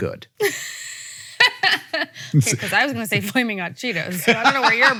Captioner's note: laughs